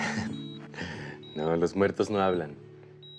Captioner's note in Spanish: Risas